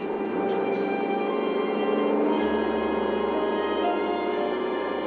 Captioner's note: engine rumbling